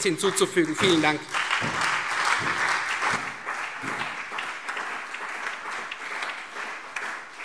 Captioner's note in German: Beifall Freie Demokraten, vereinzelt CDU und BÜNDNIS 90/DIE GRÜNEN